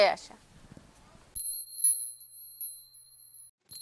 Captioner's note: bell sound